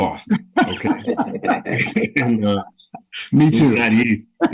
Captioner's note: group laughing